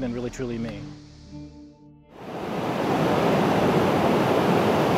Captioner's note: waves crashing